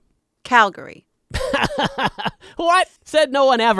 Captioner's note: laughing